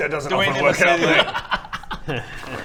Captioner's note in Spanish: risas